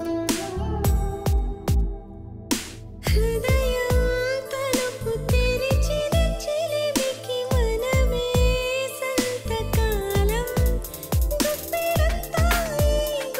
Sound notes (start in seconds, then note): none